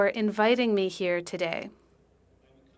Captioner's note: speaking French